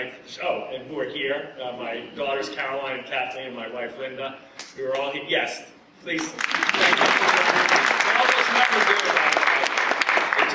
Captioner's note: applause